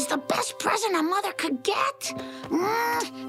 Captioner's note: kissing noises